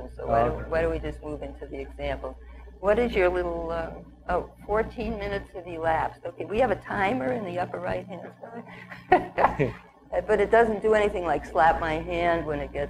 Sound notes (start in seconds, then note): 8.8 chuckles